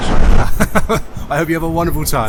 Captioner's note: laughs